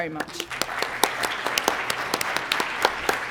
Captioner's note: applause